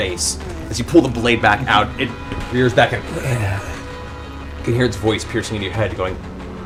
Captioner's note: growls